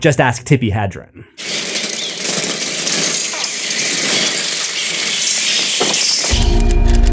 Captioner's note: swarms of birds